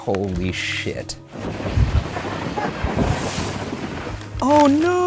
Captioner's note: boat splashing